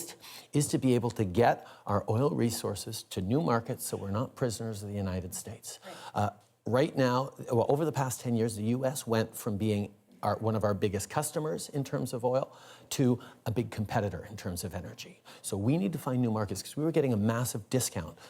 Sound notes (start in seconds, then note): none